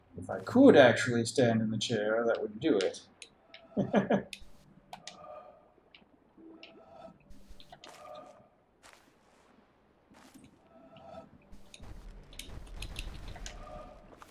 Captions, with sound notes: If I could actually stand in the chair, that would do it. [chuckles]